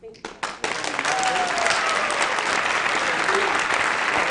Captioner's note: applause